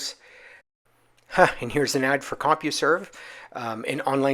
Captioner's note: chuckles